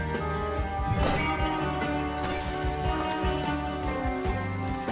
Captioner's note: urn shattering